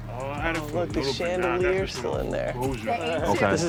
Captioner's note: laughs